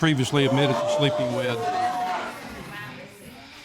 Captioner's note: audience gasping